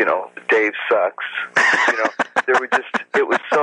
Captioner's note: laughs